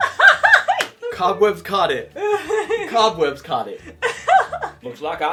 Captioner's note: laughing; laughing